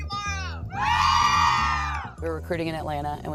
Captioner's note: cheering